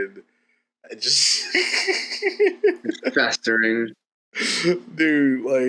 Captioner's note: laughs